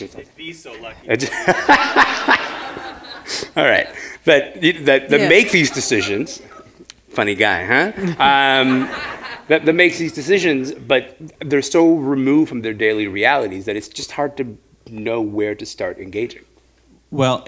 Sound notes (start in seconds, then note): 1.2 laughter